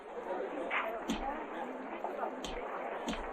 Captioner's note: punches and gasps